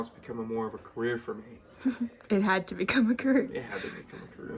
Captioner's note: laughs